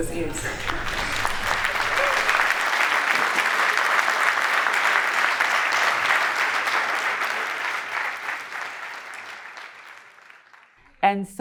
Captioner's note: people clapping hands